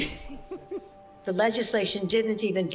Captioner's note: laughs